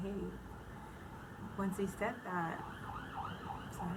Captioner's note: sirens in the background; loud siren noise